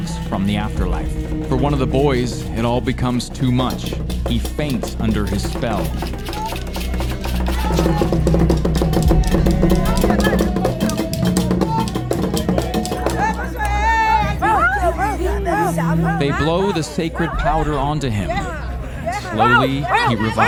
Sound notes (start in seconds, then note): 7.4 drums thudding; 13.6 women chanting